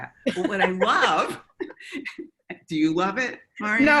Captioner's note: both laugh